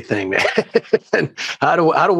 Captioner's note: laughter